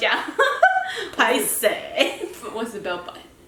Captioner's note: laughter; in Taiwanese